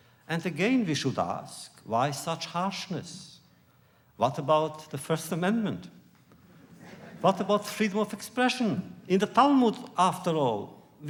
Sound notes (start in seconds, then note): 6.8 laughter